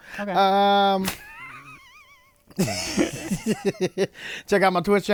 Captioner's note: laughter